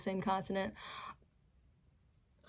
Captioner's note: sharp inhale